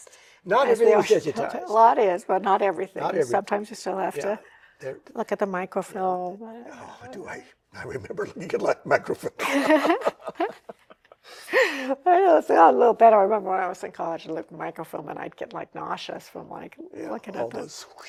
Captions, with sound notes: -Not everything is digitized. -A lot is, but not everything. -Not everything. -Sometimes, you still have to look at the microfilm. -Oh, do I? [chuckles] I remember you could like microfilm. [laughter] -A little better. I remember when I was in college, I looked at microfilm, and I'd get nauseous from looking at the--